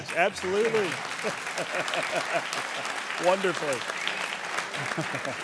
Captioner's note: audience applauding